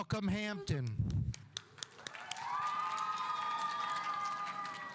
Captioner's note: audience applauding